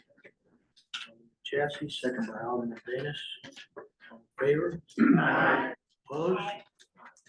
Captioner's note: in Unison